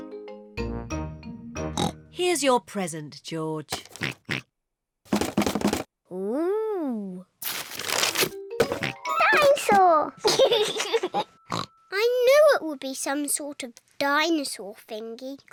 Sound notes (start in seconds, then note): 1.3 oinks; 4.9 rattles; 8.4 oinks; 10.2 laughs; 11.5 oinks